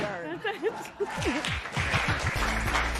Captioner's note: laughing